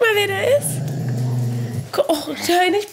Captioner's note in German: Knurren